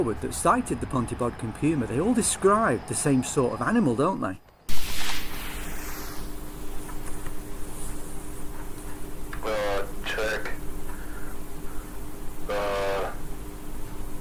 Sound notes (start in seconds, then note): 9.3 background voice on tape